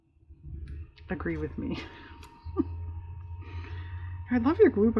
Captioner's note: laughs